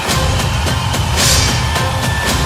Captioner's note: knife swipe